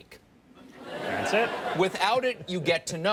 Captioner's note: audience laughs